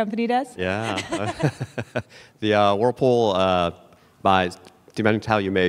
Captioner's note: chuckles